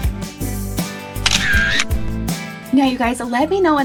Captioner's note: camera clicking